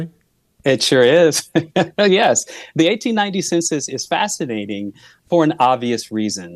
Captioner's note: chuckles